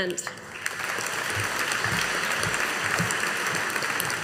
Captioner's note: audience applauding